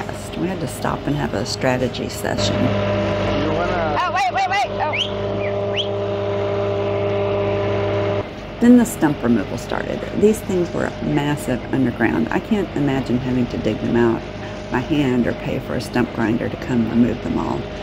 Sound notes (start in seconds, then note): 4.8 whistle